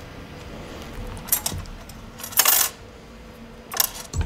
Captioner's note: bright rattling